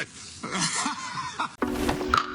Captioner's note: laughing; upbeat music